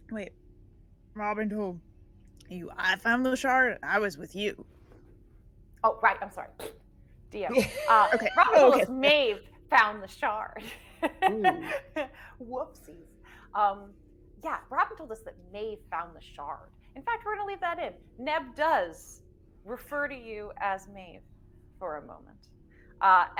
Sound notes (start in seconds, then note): 7.5 chuckles; 7.5 trilling; 10.6 laughing